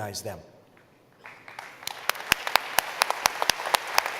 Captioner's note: applause